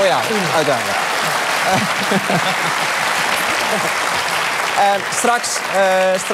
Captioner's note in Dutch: applaus